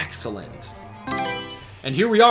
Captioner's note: Mario Selection Sound